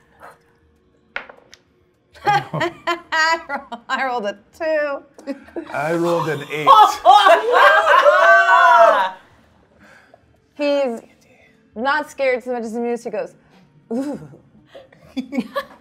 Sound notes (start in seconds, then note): 2.2 laughing; 7.0 all laughing